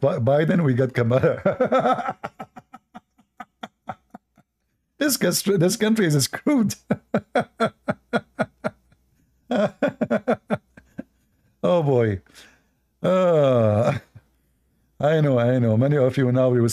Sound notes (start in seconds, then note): 6.7 Ketawa